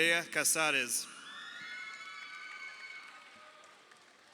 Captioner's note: crowd cheering